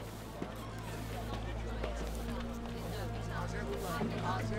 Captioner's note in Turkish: Pazar ortam sesi